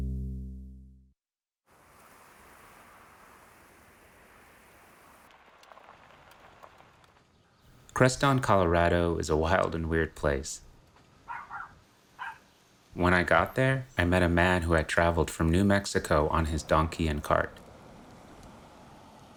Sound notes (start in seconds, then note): 11.2 dog barking